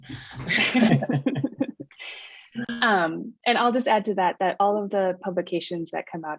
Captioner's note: laughter